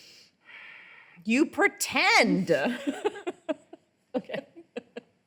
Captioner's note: laughs